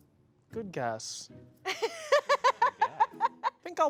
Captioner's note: laughs